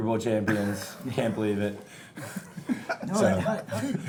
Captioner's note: chuckling